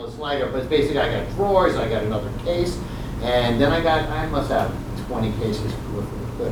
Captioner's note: none